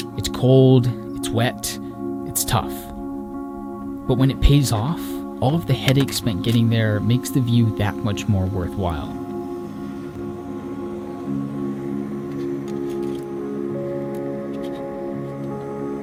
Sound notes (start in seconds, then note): 9.6 ambient music; 9.6 gas hissing